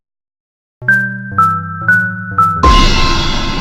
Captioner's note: chime